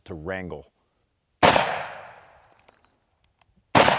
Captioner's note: gun shooting; gun shooting